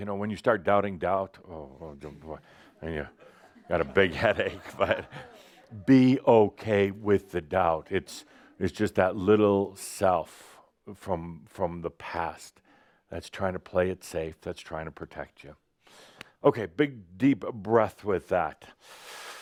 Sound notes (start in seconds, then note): 3.0 Adamus chuckles